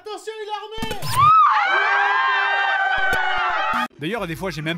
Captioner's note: screams of terror